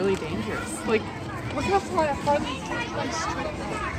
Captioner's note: chatter